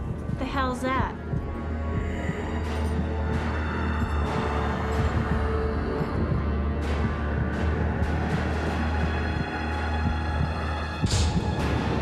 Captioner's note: heavy breathing